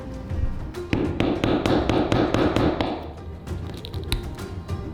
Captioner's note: hammer pounding